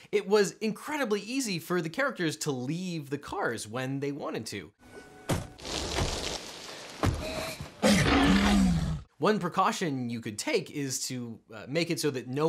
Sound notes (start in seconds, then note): 4.9 doors closing; 7.8 growls